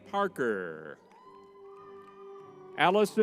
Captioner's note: crowd cheering